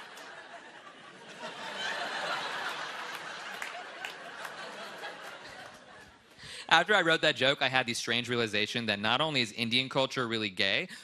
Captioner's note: laughter